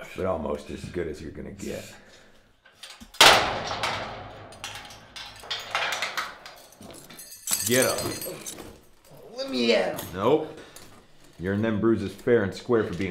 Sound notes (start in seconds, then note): 2.8 metal clanging